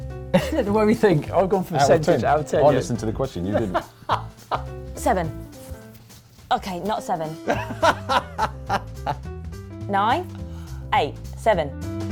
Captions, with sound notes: The way we think! I've gone percentage, out of ten, yeah? I listened to the question, you didn't! (Laughs) Seven? Okay, not seven. (Laughs) Nine? Eight? Seven?